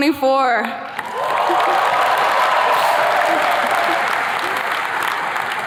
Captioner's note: attendees cheers and claps